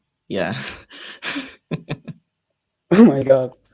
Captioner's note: laughs